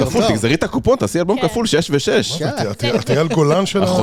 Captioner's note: laugh